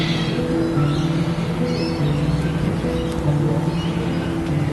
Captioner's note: birds chirping